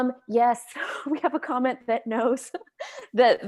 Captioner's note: chuckles